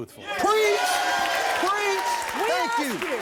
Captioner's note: audience applauding and cheering